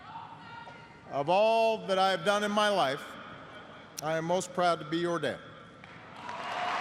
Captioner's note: applause